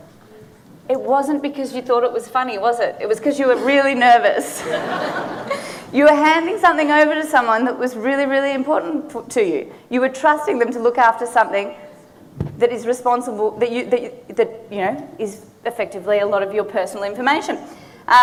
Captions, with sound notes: It wasn't because you thought it was funny, was it? It was 'cause you were really nervous. (audience laughing) You were handing something over to someone that was really really important to you. You were trusting them to look after something that is effectively a lot of your personal information.